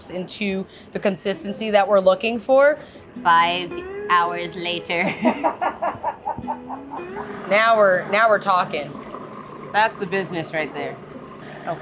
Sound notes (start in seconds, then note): 4.9 woman laughing; 5.0 laughs